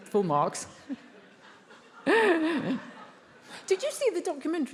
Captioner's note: Emma and attendees laughs